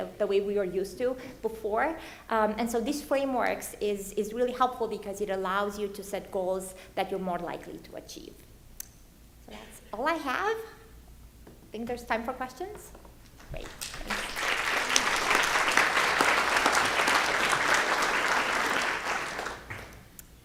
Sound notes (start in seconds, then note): 13.3 audience clapping